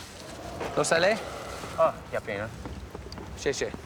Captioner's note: speaking Mandarin